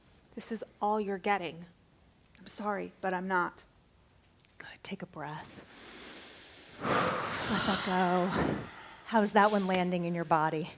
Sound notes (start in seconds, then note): 5.6 exhale